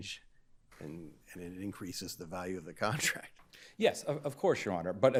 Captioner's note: chuckles